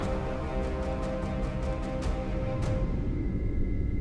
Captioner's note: dramatic music; birds chirping; dramatic music